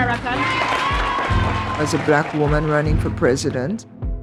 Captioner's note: applause